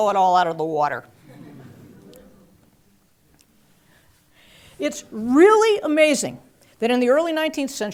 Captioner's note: laugh